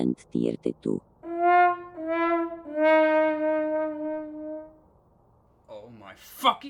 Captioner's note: fail trumpet